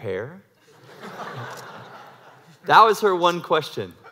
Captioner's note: laugh